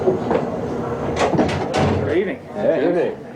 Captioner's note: door clunking